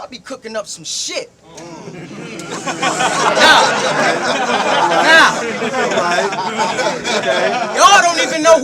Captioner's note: crowd Reaction